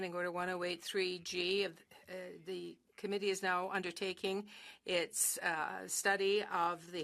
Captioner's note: speaking French